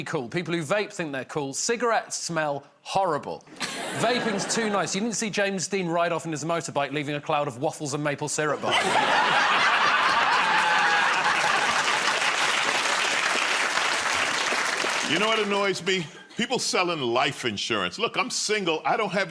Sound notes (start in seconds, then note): 11.5 laughter